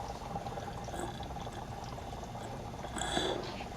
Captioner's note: gasping Breaths